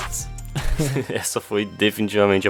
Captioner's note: laughs